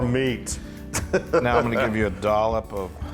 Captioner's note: laugh